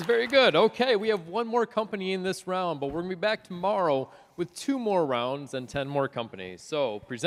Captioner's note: applause